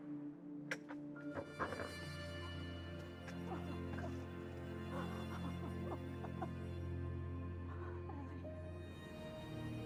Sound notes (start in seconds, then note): 0.1 soft melodic music; 4.8 Frances sobbing with joy